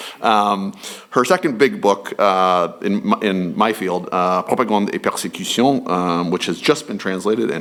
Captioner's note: french